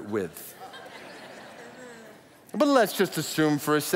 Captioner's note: audience laughs